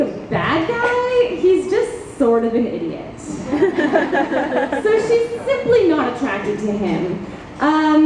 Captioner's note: audience laughs